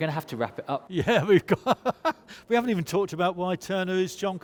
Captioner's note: laughs